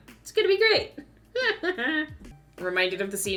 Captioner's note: laughs